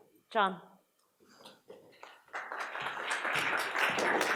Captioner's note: audience applauds